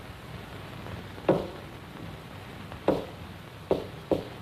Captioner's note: knocking rhythm